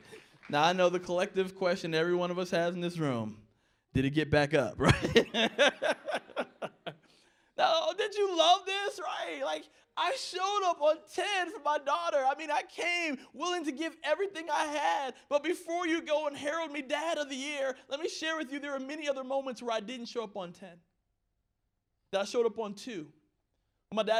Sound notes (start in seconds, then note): 4.8 laughter